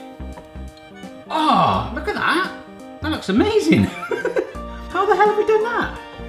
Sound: laughs

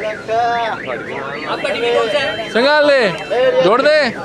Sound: in Pashto

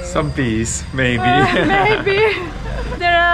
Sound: laughing

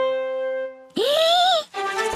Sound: inhales

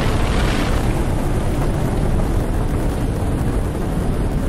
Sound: Papi whooshes

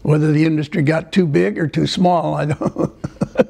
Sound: laughter

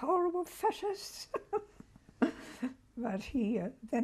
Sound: laughs

